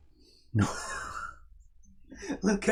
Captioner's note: wheezes